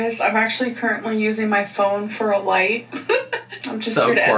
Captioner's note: laughs